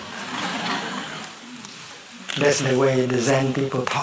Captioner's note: laughter